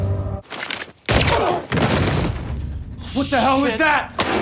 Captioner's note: dramatic music; hands slap; gun fires; agent groans